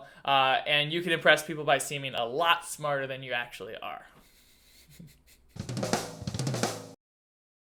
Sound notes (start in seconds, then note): 4.2 laughs; 5.5 drum beats